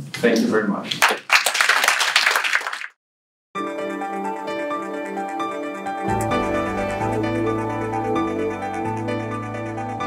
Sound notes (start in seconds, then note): 0.9 applause; 3.6 bright piano music